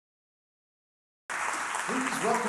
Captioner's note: audience applauds